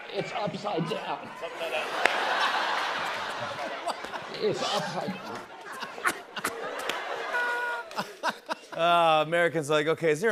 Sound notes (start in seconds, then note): 1.6 laughter